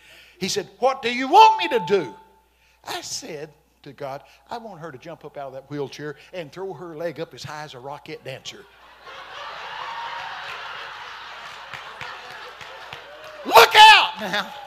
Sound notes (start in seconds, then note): 9.0 congregation laughing